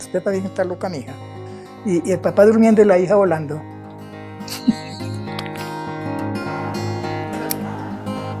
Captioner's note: giggles